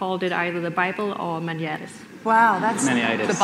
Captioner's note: speaks in foreign language